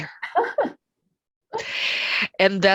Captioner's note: laughs